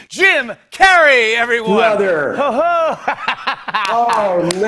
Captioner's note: laughs